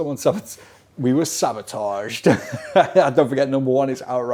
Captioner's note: laughing